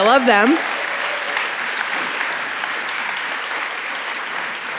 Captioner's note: audience applauding